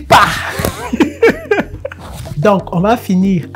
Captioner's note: laughter